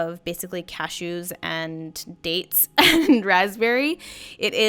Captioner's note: chuckles